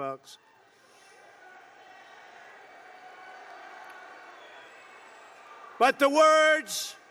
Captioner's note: applause